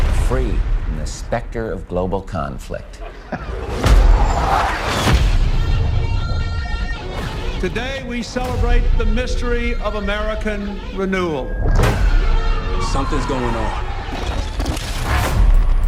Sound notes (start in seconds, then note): 2.9 laughs